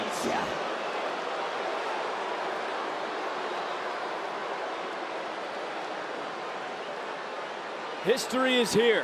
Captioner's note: crowc cheers